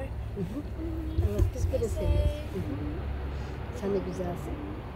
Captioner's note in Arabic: بالتركية